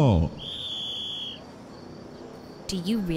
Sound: whistle blowing

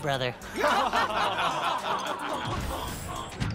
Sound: everyone laughs

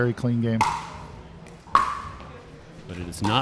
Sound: ball bouncing

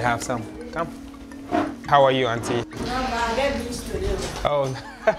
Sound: laughs

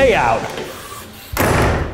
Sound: slam

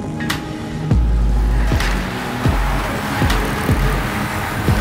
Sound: bike wheels whirring

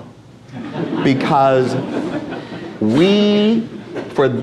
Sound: audience laughs

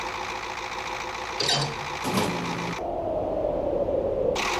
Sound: crane swings; crane engine; wooooooooossshhhhhh!

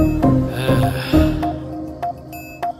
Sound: sighs

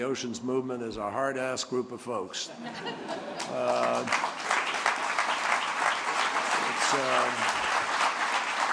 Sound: laughter and applause

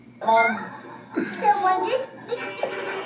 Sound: laughing

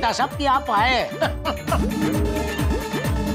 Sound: laughing

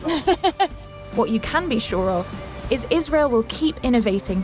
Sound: laughs

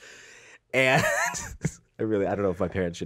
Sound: laughs

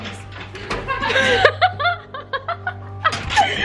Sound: laughs

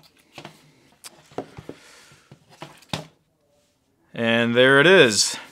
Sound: hard drive enclosure thudding

